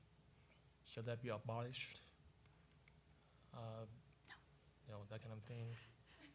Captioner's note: whispering